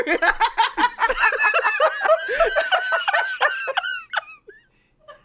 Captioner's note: laugh